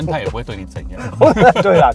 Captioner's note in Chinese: 哈哈哈